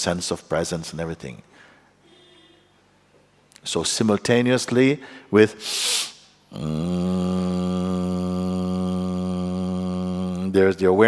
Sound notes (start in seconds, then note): 5.6 inbreath followed by buzzing sound